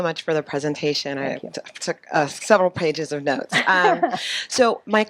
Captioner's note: laughing